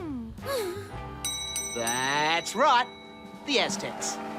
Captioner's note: bell dings